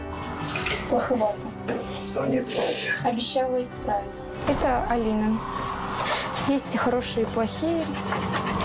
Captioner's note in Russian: фыркает